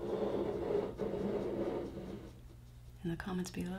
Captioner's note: cup scraping across table